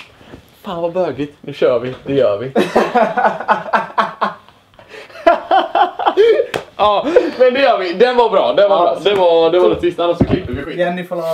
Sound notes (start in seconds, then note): 3.3 laughs